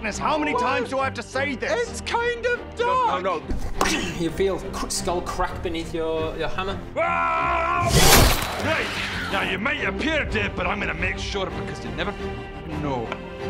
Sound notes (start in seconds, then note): 7.8 rwwaaargggghggghghhhh!